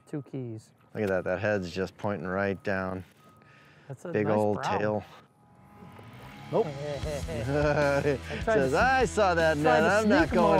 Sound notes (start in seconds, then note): 5.9 upbeat instrumental music; 7.0 laughs